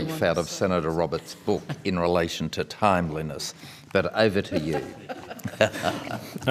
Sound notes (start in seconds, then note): 4.4 all laughing